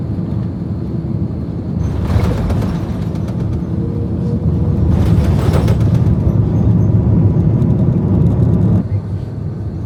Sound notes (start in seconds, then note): 1.4 plane rattling